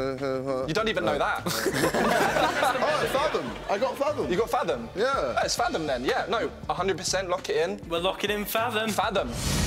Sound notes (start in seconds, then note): 1.4 laughing; 9.2 whooshing